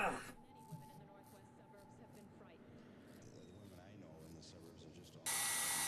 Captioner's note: news playing in background